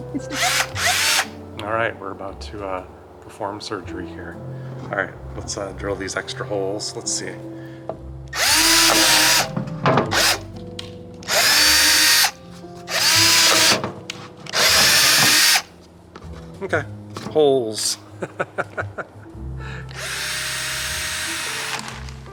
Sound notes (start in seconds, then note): 0.3 drill whirling; 8.3 drilling sound; 18.1 laughter; 19.9 drilling sound